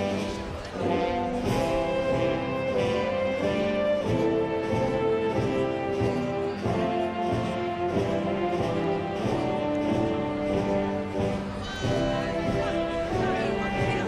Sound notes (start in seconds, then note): none